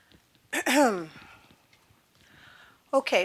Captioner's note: clearing throat